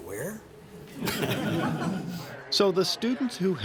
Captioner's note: laughter